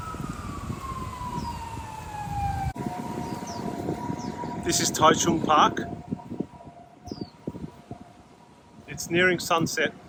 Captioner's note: ambulance